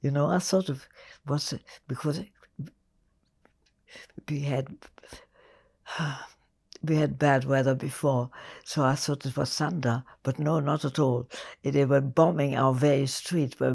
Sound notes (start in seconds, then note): 3.9 sighing